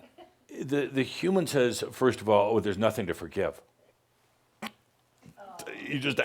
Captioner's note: snorts